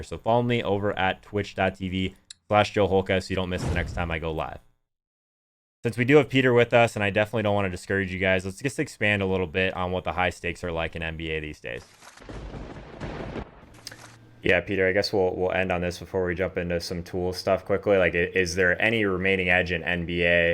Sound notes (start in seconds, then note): 12.1 lightning striking